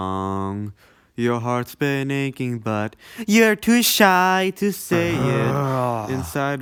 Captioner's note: groans